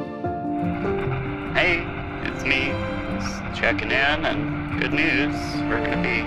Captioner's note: radio static